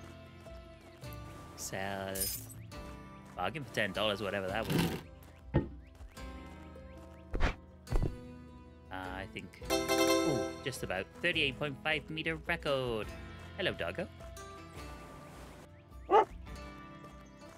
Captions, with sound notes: Sell the bargain for ten dollars, whatever that was. Uh I think... [Doorbell] Just about 38.5 meter record. Hello doggo. [Dogs barking]